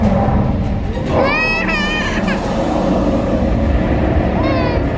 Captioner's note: baby crying